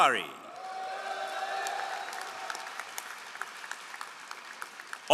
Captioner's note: all applauding